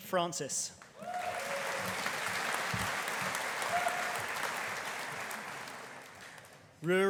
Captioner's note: audience applauding; audience cheering